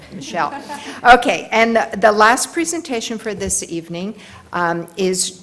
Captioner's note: laugh